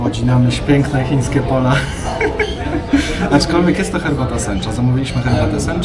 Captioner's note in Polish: śmiech